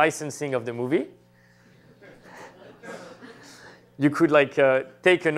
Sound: laughter

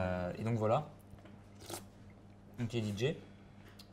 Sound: slurps

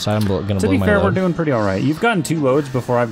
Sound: none

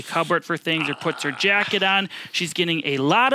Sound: mimics groaning

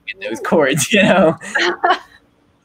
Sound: chuckles; laughing

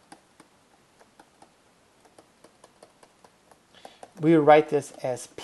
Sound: writing

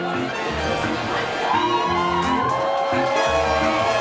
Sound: cheerful reggae music; cheering, applause

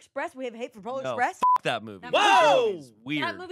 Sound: beep

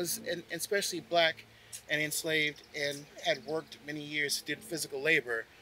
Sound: none

